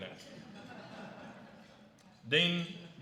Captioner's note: laughter